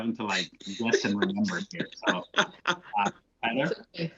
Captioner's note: laughter